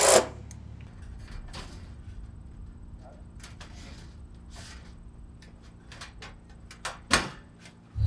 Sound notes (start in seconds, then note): 2.0 machine engine rumbling continues